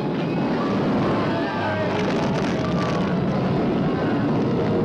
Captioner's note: all screaming